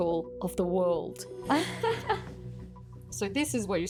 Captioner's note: laughs